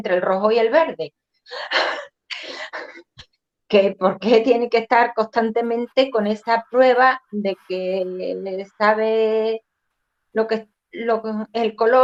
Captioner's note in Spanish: Risas